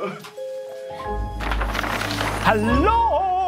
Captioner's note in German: Rascheln